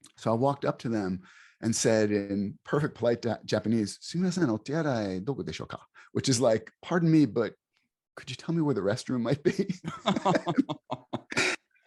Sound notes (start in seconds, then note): 4.0 speaking in Japanese language; 9.5 both laughs in chorus